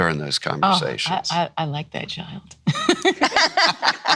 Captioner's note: laughs